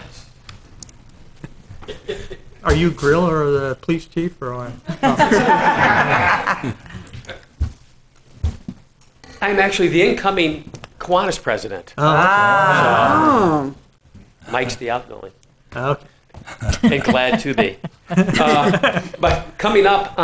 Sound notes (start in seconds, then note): 4.8 laughing